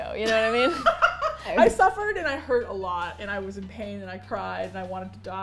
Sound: laughs

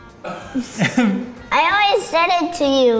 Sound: laughs

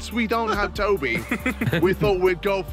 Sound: laughter

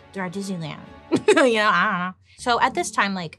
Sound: laughs

